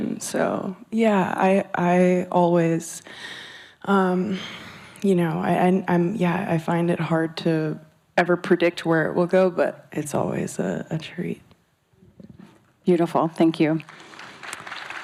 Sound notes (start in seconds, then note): 4.9 stammers; 13.8 audience applauds